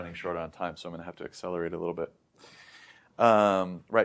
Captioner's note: inhales